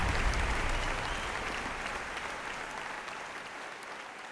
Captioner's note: applause fades out